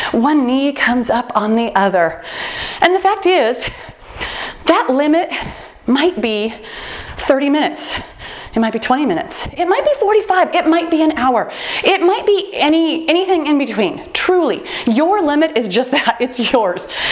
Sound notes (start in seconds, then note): none